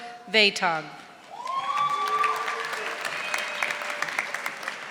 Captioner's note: audience applauding